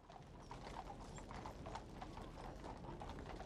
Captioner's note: horses trotting